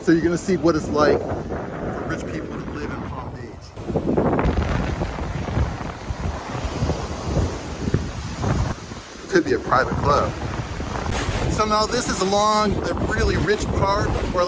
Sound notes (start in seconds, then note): 4.6 waves crashing; 4.6 wind whistling